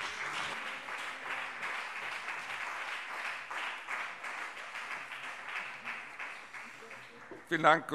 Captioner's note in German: Beifall BÜNDNIS 90/DIE GRÜNEN und CDU